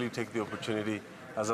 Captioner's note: speaking French